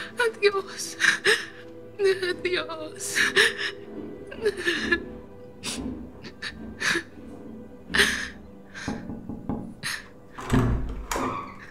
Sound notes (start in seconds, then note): 4.3 footsteps approaching; 8.8 gentle knocking; 10.3 door opening